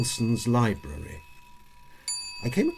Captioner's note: clock chimes